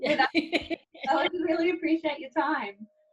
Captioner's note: laughs